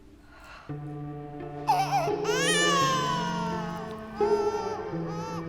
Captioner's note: crying